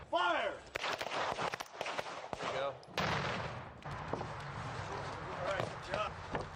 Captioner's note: gunshots